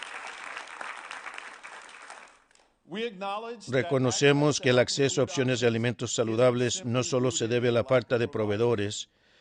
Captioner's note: applause